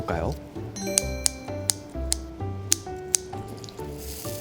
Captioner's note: cutting with scissors